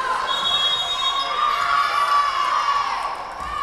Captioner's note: whistle blowing; lions cheering